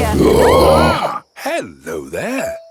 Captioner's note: roaring, screaming